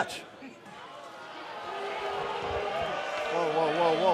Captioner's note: crowd cheering